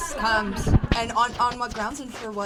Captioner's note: laughter